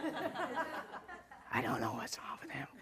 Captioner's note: laughter